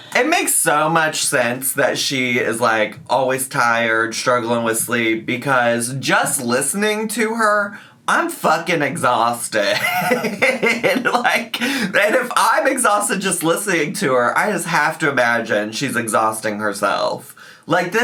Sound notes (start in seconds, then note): 9.7 laughs